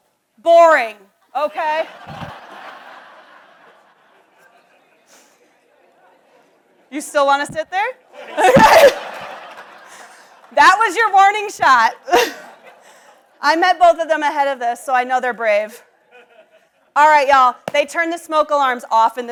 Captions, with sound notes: (audience laughs) You still wanna sit there? (audience laughs) That was your warning shot. I met both of them ahead of this, so I know they're brave. All right, y'all, they turn the smoke alarms off